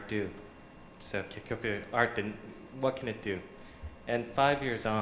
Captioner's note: japanese